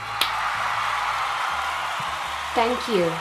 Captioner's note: crowd cheering